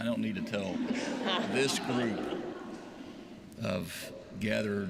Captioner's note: laughter